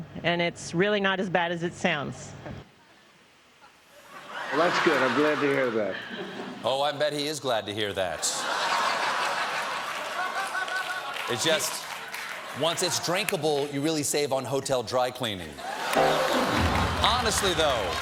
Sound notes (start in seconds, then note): 11.4 laughter